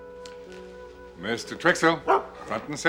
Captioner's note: dog barks